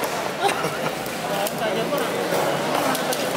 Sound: laughs

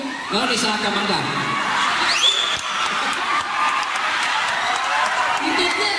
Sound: crowd

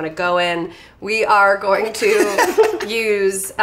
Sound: laugh

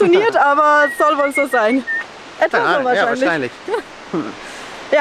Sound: whistles

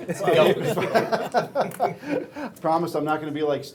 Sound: laughing

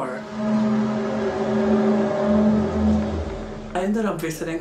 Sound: eerie buzzing noise

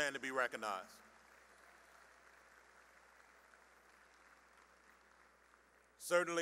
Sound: applause

